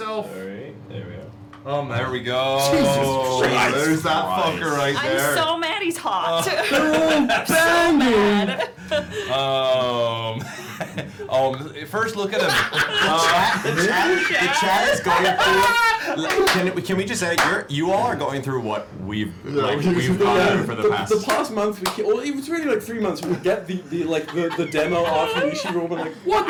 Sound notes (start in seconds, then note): 12.3 laughs; 16.0 laughter